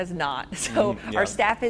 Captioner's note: chuckles